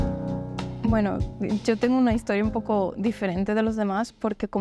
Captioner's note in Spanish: en español